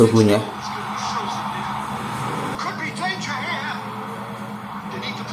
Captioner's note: applause